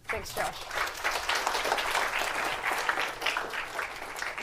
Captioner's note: applause